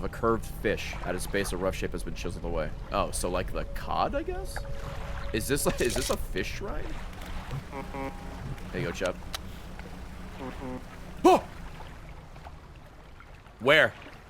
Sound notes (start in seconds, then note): 7.5 honk honk; 11.4 distant honk honk